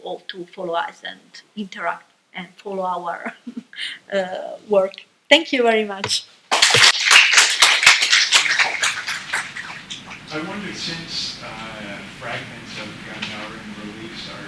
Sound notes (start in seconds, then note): 6.5 applause